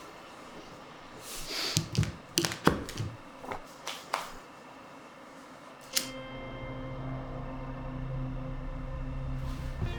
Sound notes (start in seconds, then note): 1.2 sniffs; 3.8 hands clap; 6.0 expectant music